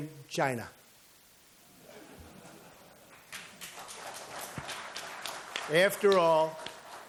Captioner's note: applause